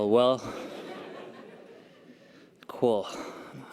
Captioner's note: audience laughter